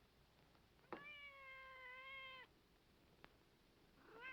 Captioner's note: cat meows